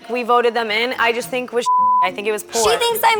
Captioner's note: beep